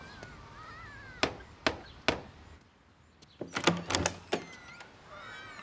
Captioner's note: door knocker tapping